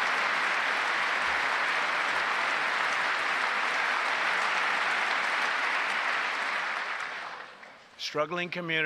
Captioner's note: applause